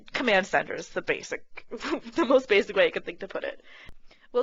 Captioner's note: laughing